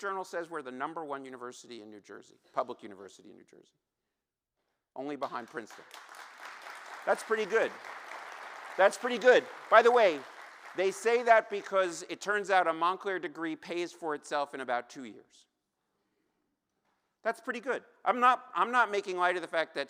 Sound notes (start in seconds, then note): 9.1 applause